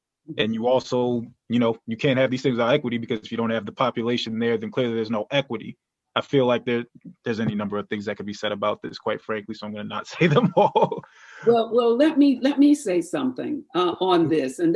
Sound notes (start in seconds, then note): 10.1 laughter